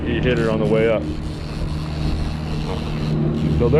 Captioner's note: reel cranking